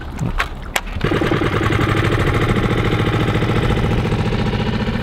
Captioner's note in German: Motor Rumpeln